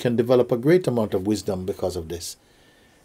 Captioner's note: none